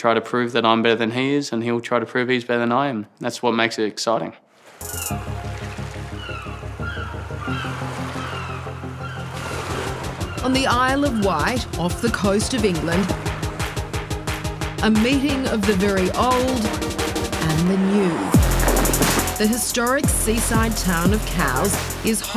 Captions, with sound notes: I'm gonna try to prove that I'm better than he is, and he'll try to prove he's better than I am. That's what makes it exciting. (BIRDS SQUAWK) On the Isle of Wight, off the coast of England,... ..a meeting of the very old and the new. The historic seaside town of Cowes